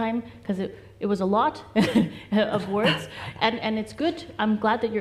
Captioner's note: laughs